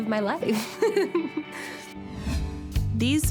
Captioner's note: chuckles